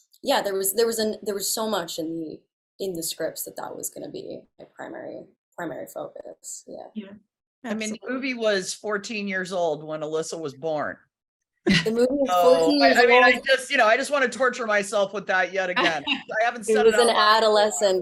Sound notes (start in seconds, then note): 11.7 laughs; 15.8 laughs